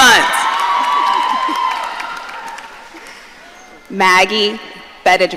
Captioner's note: audience cheering